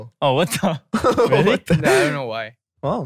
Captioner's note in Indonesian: tertawa